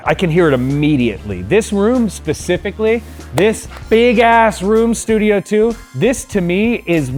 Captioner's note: claps